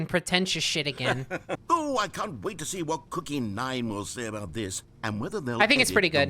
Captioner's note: laughs